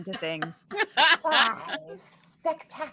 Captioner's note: all laughing